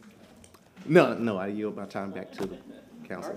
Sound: laughter

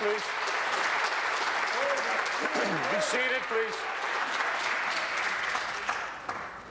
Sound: applause

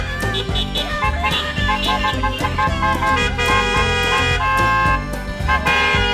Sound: car horn honks

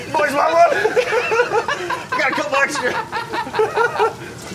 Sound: laughter

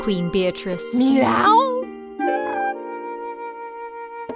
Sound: meowing

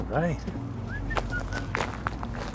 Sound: whistles

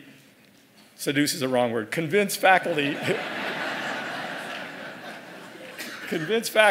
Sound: laugh

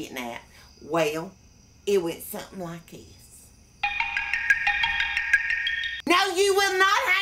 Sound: computer noise

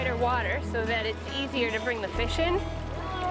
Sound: water gently rippling

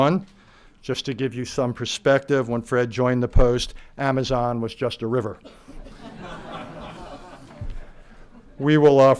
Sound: laughter

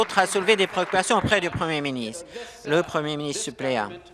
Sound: applause

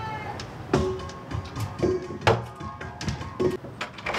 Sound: crash

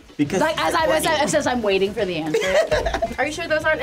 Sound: group laughs

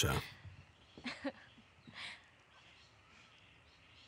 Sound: laughter

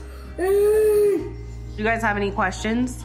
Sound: groans

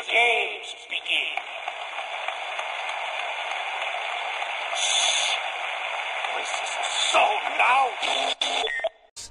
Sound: applause is heard

